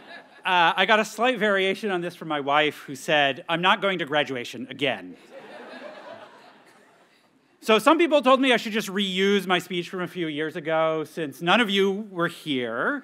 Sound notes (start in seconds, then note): 0.0 students chuckle; 5.2 audience laughs